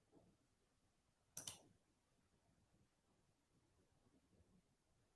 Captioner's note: mouse clicking